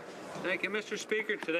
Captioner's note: some Applause